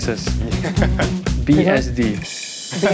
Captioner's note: laughs